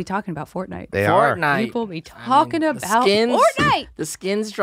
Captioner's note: shouts excitedly